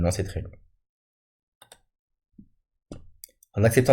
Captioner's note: click